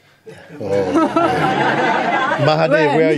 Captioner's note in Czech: smích